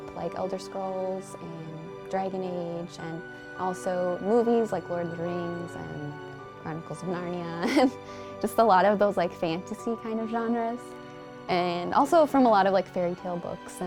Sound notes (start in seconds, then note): 7.6 chuckles